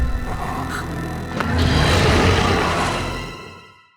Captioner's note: growling